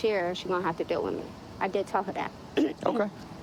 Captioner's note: clearing throat